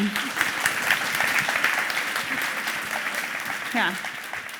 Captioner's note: applause